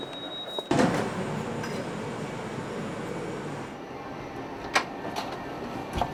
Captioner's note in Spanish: la puerta del avión se cierra